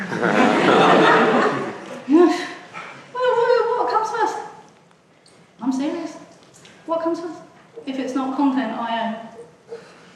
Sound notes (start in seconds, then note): 0.0 audience laughs; 2.1 sighs